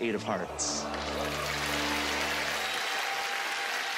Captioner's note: applause